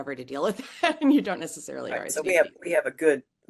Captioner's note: laugh